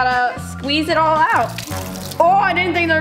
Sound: dramatic music; water trickling

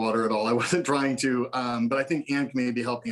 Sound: laughter

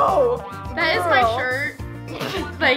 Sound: laughs

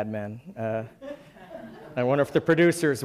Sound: laughing

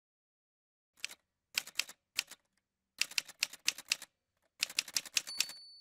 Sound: typewriter sounds

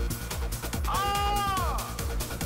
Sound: incredibly Loud Release of Disbelief, Frustration, and Disappointment

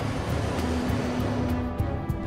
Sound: plane passing; tense music

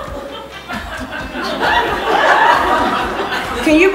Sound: audience laughs

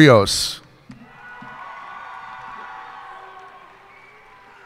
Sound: cheers and applause

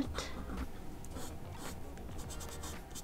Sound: "finger painting" noises

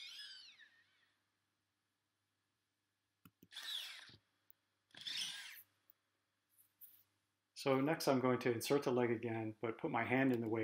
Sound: mechanical sounds

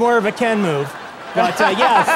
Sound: laughs

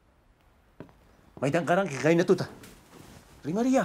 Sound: none

